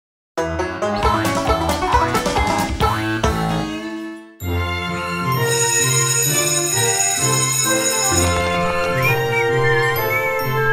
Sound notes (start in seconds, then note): 5.3 school bell rings; 8.8 whistling